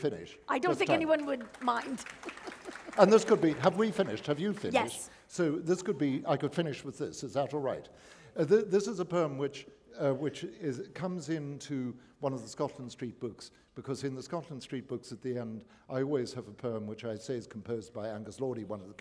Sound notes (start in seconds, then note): 0.7 applause